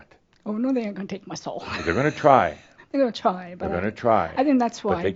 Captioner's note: she chuckles